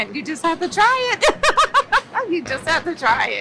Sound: laughs

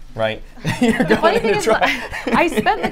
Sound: both laugh

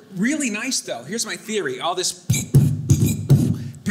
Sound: thumping

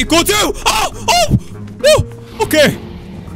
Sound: startled scream

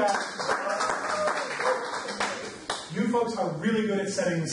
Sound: audience claps

